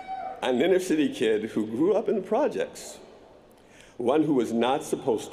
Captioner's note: cheers & applause